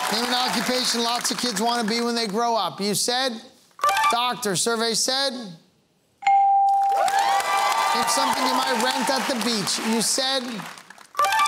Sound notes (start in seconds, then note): 6.8 cheering and applause